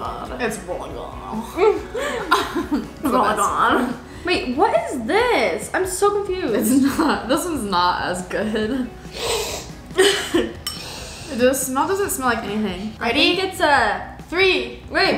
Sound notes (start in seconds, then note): 1.5 laughs; 9.0 sniffs ice cream